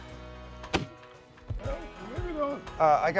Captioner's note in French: bruit sourd de main